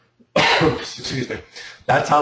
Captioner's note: cough